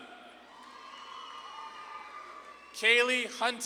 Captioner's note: audience claps and cheers